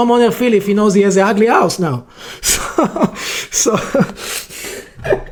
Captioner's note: laughs